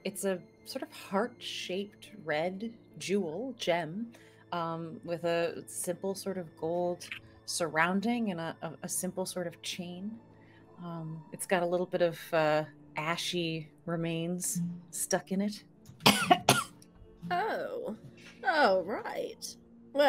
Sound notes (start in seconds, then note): 16.0 coughs